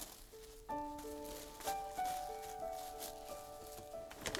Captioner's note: more rustling